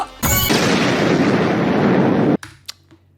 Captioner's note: chum bucket exploding